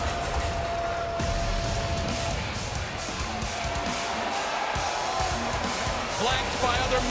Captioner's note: crowd cheering